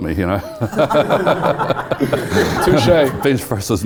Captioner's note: laugh